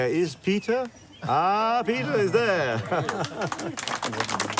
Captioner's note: laughs; crowd applauding